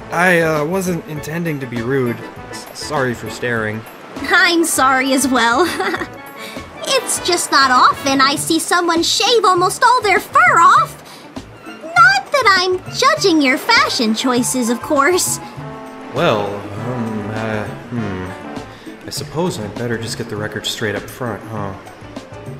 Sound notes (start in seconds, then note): 5.2 laughs